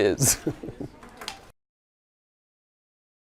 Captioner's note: laugh